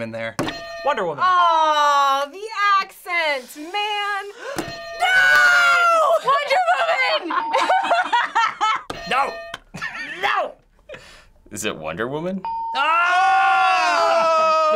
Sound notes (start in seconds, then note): 0.4 hitting bell; 4.3 gasping; 4.6 hitting bell; 7.1 both laughing; 8.3 hitting bell; 10.6 laughing; 12.4 ding